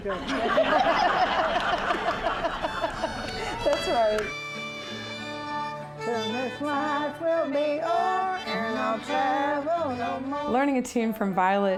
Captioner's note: laughter